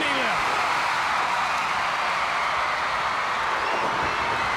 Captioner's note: audience roaring